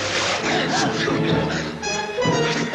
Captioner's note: laughing